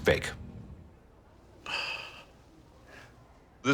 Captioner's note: sighs